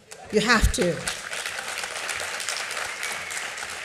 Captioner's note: applause